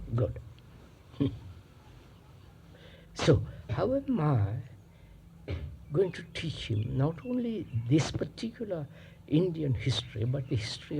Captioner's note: laughs